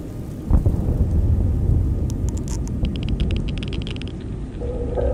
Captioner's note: post-apocalyptic soundscape